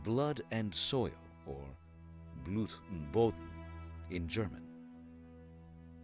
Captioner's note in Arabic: يتحدث الألمانية